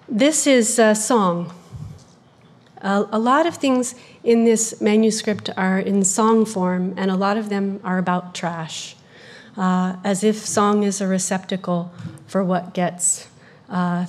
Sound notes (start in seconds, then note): none